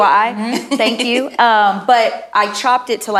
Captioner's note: laughing